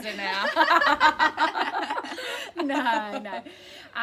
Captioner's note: laughter